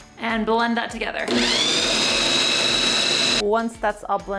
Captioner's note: food processor whirling